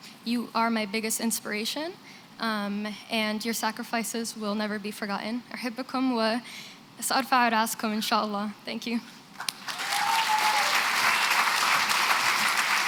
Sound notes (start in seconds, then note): 5.5 non-english speech; 9.4 applause